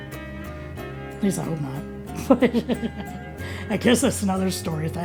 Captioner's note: laughs